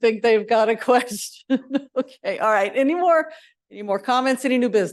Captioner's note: chuckles